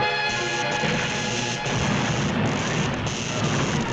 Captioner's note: dramatic music; electricity zaps